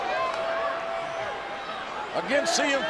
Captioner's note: audience cheering